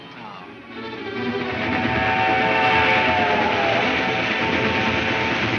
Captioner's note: train horn blares; exciting music